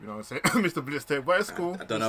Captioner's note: coughs